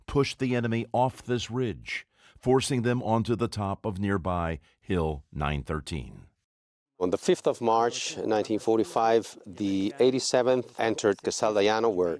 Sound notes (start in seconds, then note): 7.1 voiceover